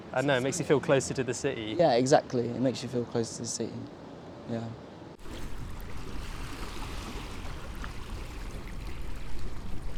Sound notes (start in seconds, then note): 5.2 water flowing